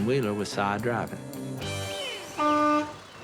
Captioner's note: honking